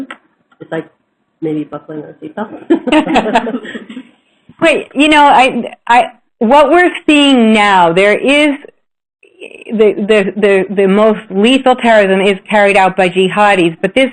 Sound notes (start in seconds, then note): 2.6 laughter